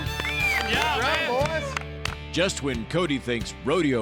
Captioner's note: clapping